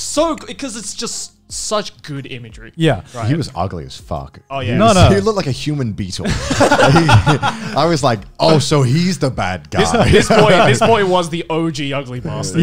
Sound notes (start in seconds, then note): 6.2 both laughing